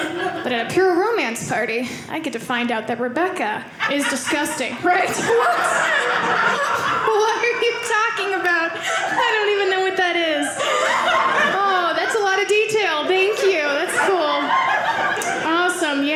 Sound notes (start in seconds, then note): 5.4 audience laughing